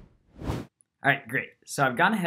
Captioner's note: air swooshing